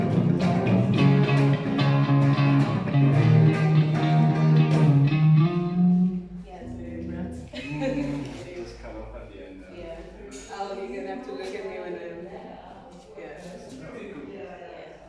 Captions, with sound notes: Yeah It's very abrupt *laughs* Just come up at the end there Yeah Um You're gonna have to look at me when I do that Yeah Yeah, cool